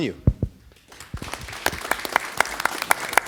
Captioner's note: applause